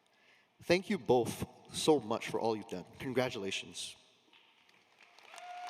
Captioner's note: applause